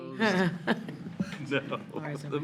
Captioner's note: people laughing